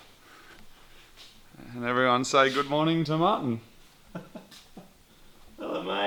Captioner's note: laughs